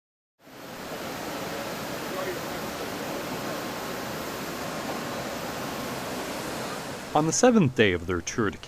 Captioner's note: airplane sounds